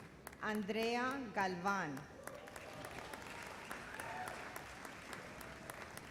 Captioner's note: audience applauds